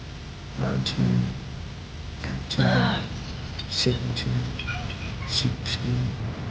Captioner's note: clone grunts; intense music continuing